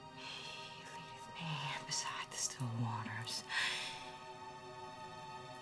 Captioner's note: gasping